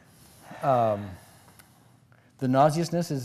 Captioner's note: sighs